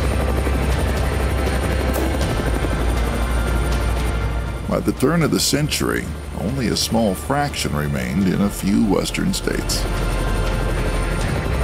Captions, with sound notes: (popping) By the turn of the century, only a small fraction remained in a few western states.